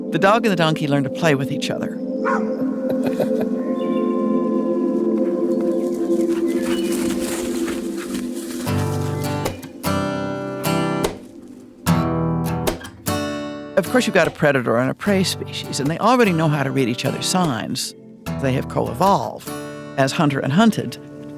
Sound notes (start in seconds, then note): 5.9 leaves rustling; 9.1 guitar instrumental music